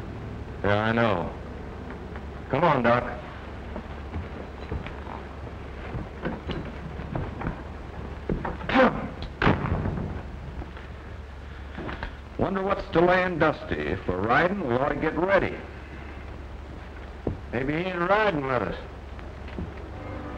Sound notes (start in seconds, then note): 6.7 clears throat